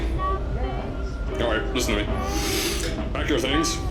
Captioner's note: sigh